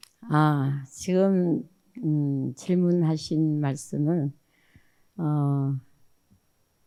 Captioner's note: speaking in foreign language